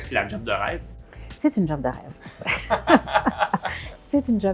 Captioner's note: laughs